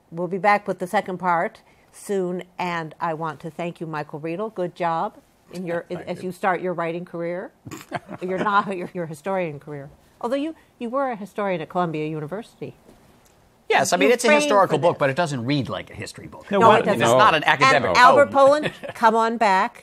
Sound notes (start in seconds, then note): 7.6 chuckles